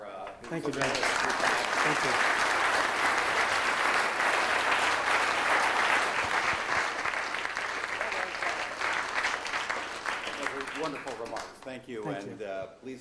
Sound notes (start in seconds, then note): 1.4 audience applauds